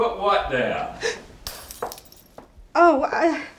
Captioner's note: Isabella gasps; bulb shatters